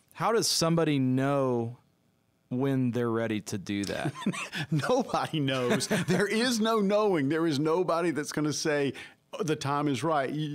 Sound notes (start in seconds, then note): 5.4 laughs